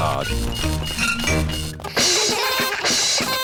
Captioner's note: items clinking; all laugh